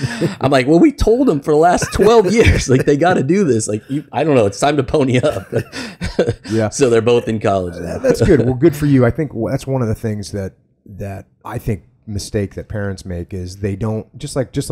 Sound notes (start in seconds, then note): 5.2 laughs